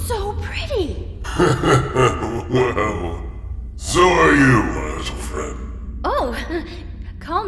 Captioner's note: chuckle